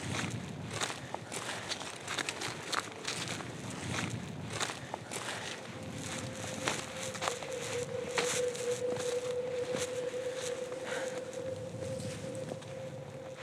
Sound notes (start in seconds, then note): 1.9 heavy breathing; 8.5 footsteps